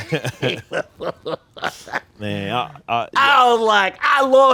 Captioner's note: Spike laughs